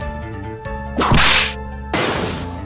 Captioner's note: whip crack!